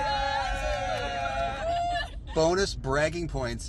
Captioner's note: cheering